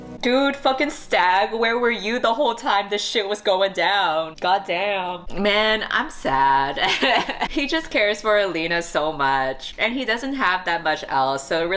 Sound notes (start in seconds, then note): 6.8 laughs